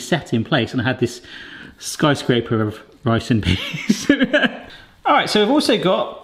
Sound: laughs

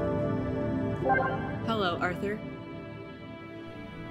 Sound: computer chiming

